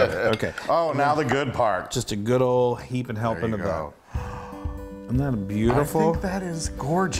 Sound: none

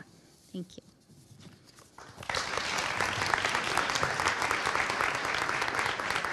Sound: audience applauding

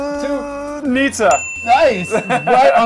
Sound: bell rings

